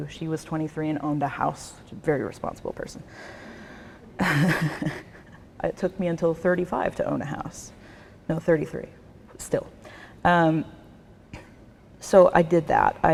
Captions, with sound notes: She was 23 and owned a house. She's a very responsible person. (laughs) It took until 35 to own a house; no, 33, but still. So I did that.